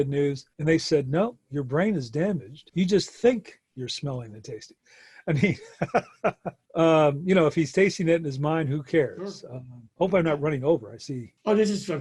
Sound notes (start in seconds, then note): 5.4 laughs